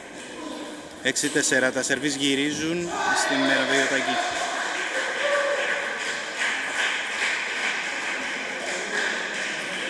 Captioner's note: applause